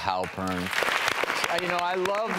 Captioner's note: applauding